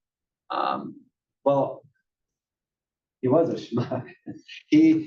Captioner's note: laugh